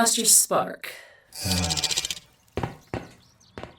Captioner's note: Ace shudders